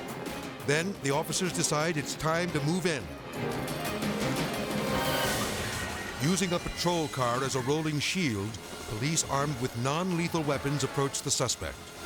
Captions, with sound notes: Then the officers decide it's time to move in. (intense music) (siren wailing) Using a patrol car as a rolling shield, police armed with non-lethal weapons approached the suspect.